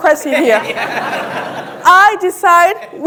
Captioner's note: audience laughing